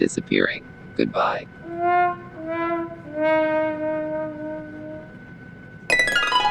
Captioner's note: fail trumpet; harp